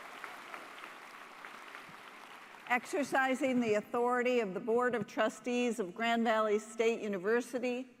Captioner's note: applause